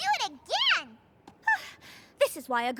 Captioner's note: scoffs